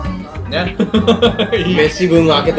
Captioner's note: laughs